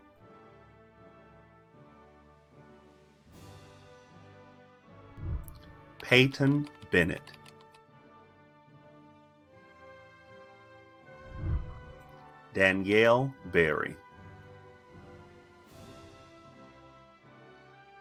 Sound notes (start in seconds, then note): 0.3 celebratory music; 7.9 celebratory music; 11.2 whooshing; 14.8 celebratory music